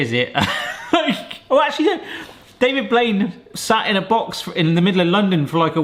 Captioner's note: laughing